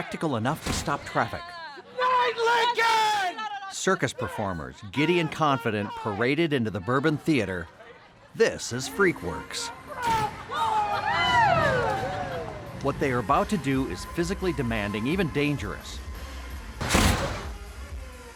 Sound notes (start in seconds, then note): 9.6 whoosh sound of blowing fire